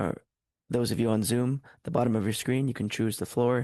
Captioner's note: speaking French